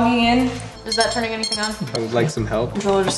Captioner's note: beeping